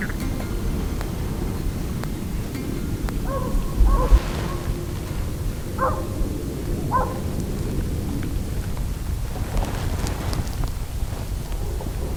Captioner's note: distant dogs barking